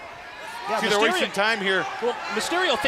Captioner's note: crowd chatter